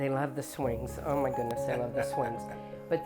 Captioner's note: laughs